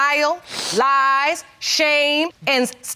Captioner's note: sniffles